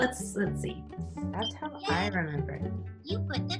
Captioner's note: beeps